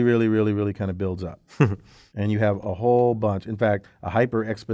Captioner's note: laugh